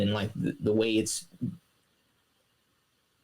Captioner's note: silence